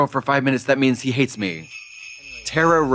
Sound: sleigh bells jingling

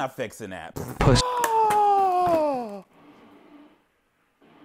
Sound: man gasping

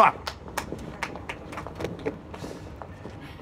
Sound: scattered applause

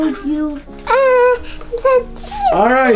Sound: making cute, playful cat noises

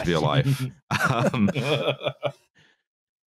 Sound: laughter

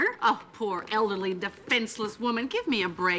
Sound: scoffing

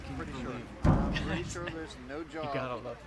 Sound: chatter/excitement

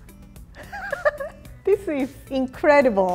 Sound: laughter

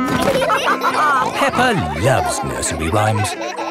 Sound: all laughing

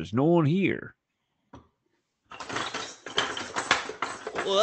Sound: Sound of Zoltan emerging from ball pit

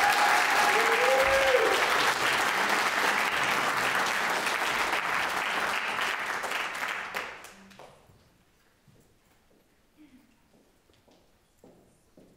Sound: audience applauds

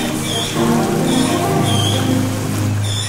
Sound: SQREak SQREAKSRQEak; water flowing loudly obscuring singing

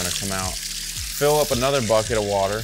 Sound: hose spraying

